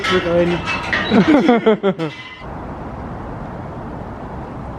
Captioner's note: laughs